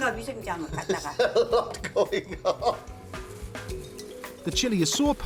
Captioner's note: speaking Korean; Dave laughing